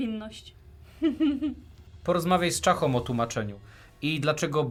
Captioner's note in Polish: śmiech